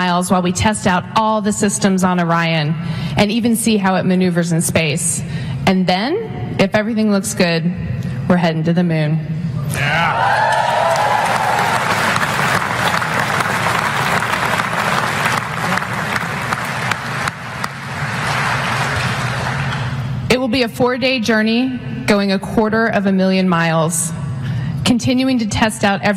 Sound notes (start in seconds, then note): 10.2 applause